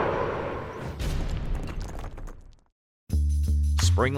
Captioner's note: rocks crashing; upbeat music